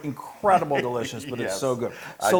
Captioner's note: laugh